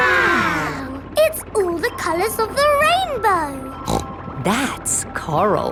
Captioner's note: snorts